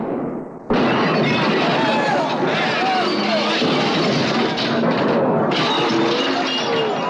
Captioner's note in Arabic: إطلاق نار; يصرخ الضيوف; يتحطم الزجاج